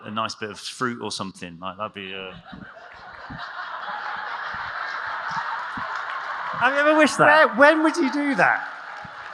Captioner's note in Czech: smích